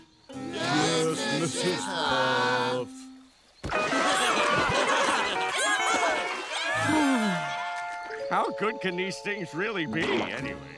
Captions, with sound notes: Yes, Mrs. Puff. [sighing] How good can these things really be anyway?